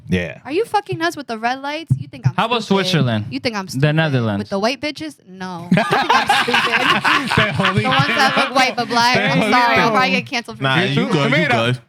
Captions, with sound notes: Are you fucking us with the red lights? How about Switzerland? You think I'm stupid with the white bitches? No. (Laughing) The ones that look white but black, I'm sorry. I get canceled for you. You good, you good.